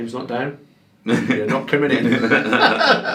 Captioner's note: laughing